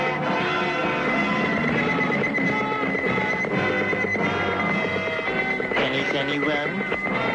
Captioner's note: sonar beeping; lively music; sonar beeping